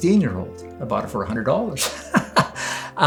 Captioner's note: rires